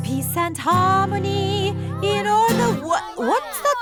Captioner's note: commotion